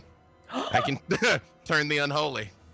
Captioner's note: gasps; laughs